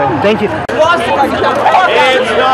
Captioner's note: shouting and Singing